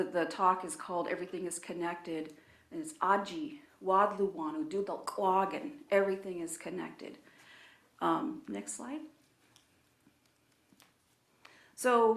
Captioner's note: speaking in own language